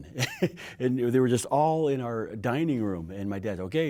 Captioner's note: chuckling